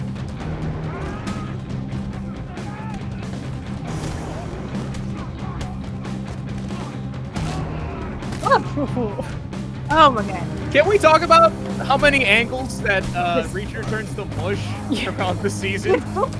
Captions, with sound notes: (assailants grunting) - So cool. - Oh my god. - Can we talk about how many ankles that Reacher turns to mush across the season?